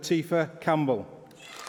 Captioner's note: applause